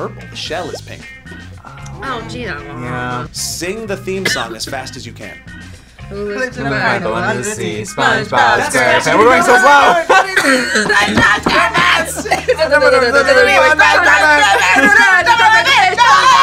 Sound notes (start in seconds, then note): 10.2 coughs; 13.0 all babbling rapidly